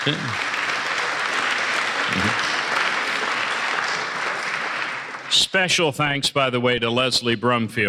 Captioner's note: applause